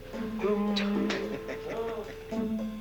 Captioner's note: Il se remet à chantonner